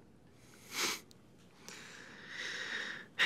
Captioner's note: scoffs; sighs